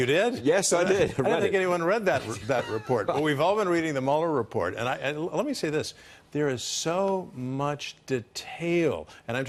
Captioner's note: laughter